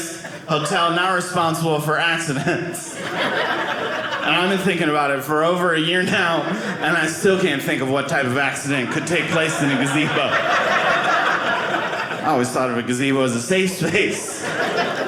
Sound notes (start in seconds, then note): 10.7 audience laughing